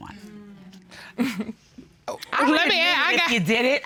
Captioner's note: chuckles